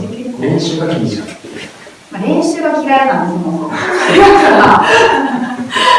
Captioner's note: laughs